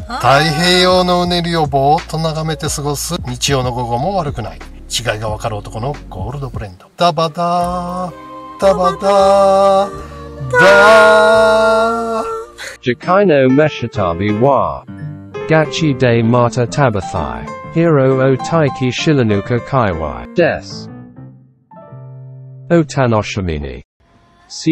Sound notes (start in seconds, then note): 10.5 laughs